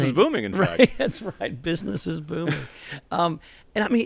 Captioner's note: laughter